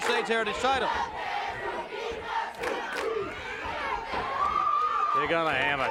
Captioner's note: crowd chanting and cheering